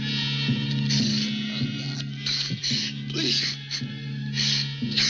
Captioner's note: crying